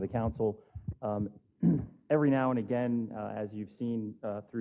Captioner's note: cough